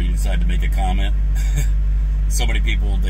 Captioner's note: laughs